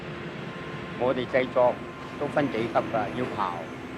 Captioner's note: Cantonese